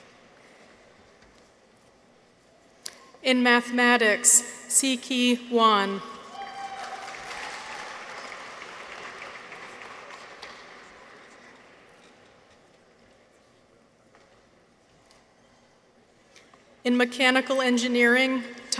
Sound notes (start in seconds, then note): 6.3 people cheer; 6.4 audience applauds